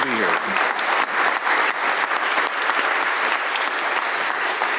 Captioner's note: audience applauding